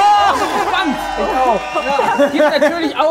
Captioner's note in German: Stimmengewirr